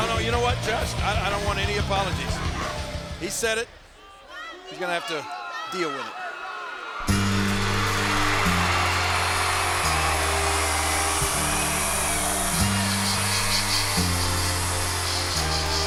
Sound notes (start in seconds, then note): 7.1 upbeat music; 7.2 crowd cheering